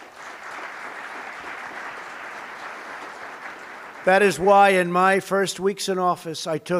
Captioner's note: applause